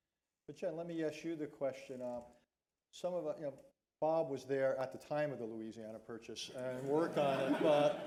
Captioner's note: laughter